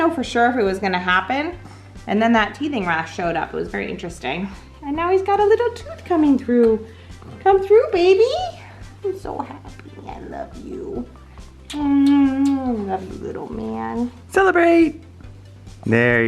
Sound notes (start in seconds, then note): 11.6 kissing sounds